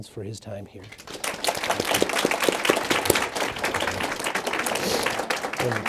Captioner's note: audience applauding